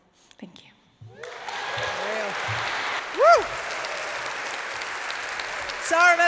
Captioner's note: applause